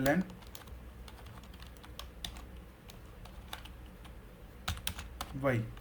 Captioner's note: typing